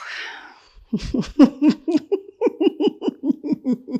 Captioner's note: laughs